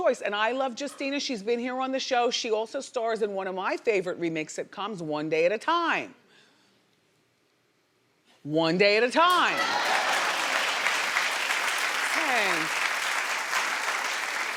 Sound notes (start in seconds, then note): 9.5 audience applauding